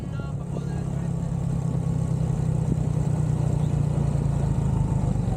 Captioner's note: engine noise